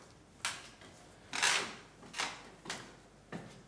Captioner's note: creaking of the ladder